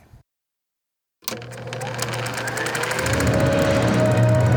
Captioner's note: projector whirring